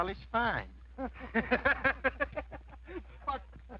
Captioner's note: men laugh